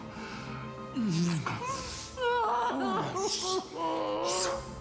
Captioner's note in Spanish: sollozos